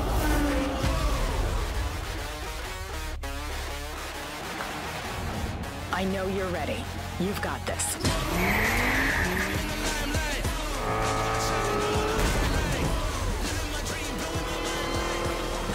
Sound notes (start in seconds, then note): 2.7 rock music playing; 8.5 tires screeching; 10.8 rap music playing